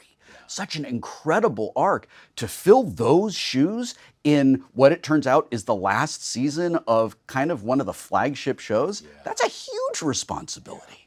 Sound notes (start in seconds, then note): none